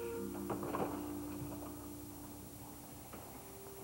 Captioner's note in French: La porte s'ouvre